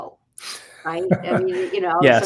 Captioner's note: laugh